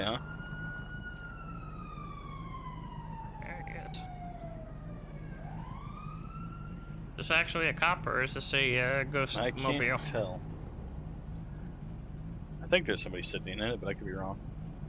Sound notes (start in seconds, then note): 9.3 gagging noises